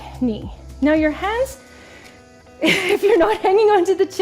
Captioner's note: laughing